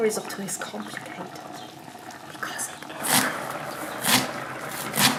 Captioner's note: whispers